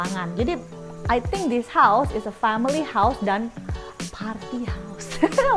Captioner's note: laugh